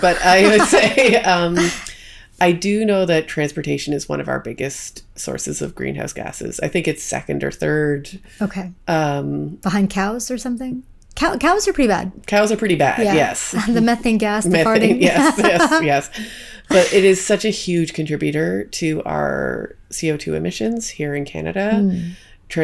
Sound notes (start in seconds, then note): 14.6 laughs